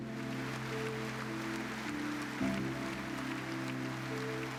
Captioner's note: crowd applauds